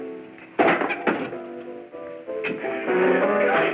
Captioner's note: bangs chair